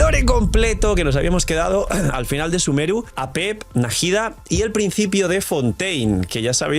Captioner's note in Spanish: carraspeo